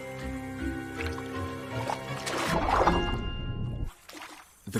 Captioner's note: insects buzzing